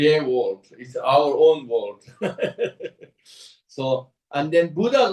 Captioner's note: laughs